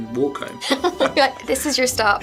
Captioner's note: both laughing; laughing